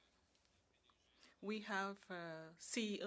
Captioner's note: speaking French